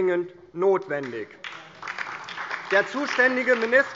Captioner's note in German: Beifall DIE LINKE und SPD